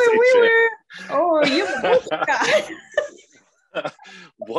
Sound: laughing

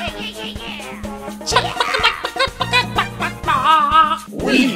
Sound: clucks

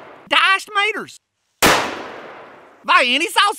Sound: gun fires; gun fires

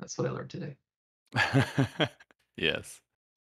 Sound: laughter

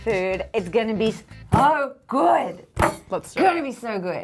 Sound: fists pounding

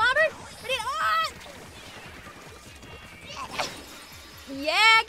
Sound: yells in distress

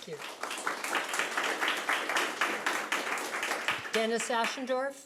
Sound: audience clapping

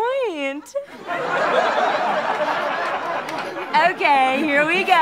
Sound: audience laughter

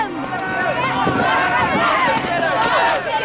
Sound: Loco war cries; Locos screaming

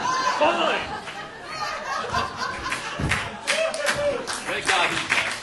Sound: audience laughing

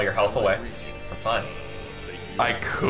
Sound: Steamed Hams dialogue playing in the background

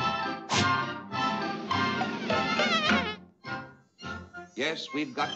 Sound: buzzing

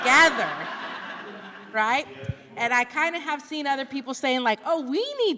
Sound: laughter

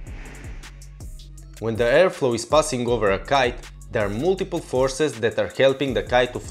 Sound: wind

